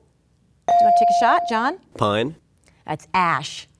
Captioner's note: bell dinging